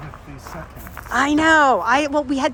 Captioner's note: vase thudding